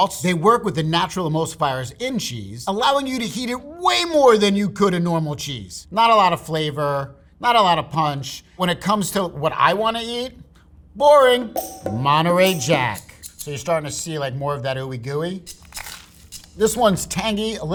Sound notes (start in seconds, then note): 11.5 upbeat music; 12.7 rattling; 15.4 sandwich rustling; 15.5 rattling